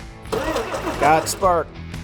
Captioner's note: engine turns